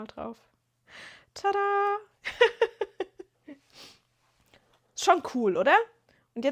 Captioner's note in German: gelächter